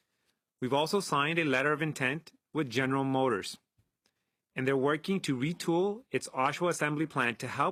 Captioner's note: speaking French